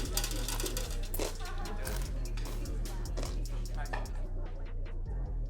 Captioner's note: people chattering